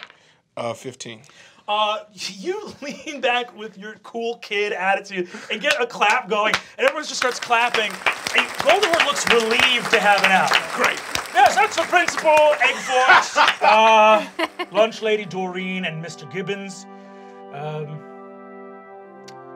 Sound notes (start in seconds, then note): 9.9 applause; 12.5 laughter; 16.2 grave orchestral music